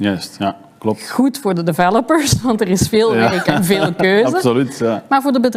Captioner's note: laughs